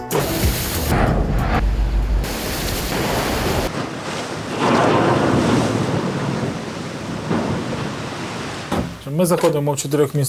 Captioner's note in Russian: шум моря